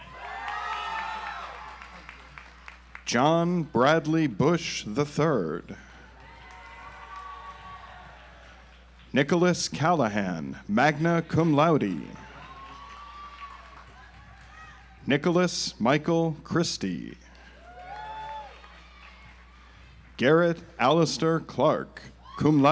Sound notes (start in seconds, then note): 0.0 audience applauds; 6.1 audience applauds; 11.0 audience applauds; 17.4 audience applauds